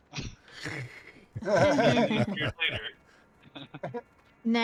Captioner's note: laughter